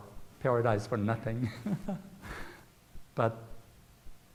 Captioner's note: chuckles